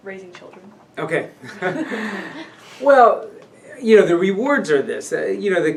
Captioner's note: laughs